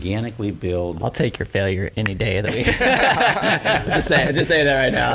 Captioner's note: laughs